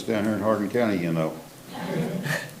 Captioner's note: group laughs